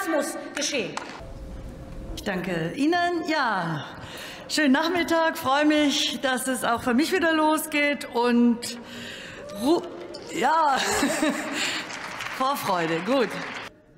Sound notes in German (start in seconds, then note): 11.0 Beifall beim BÜNDNIS 90/DIE GRÜNEN